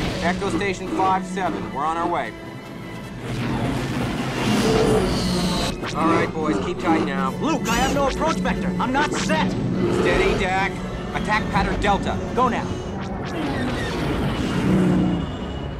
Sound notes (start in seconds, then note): 3.2 fighter engine sound; 13.0 blaster shots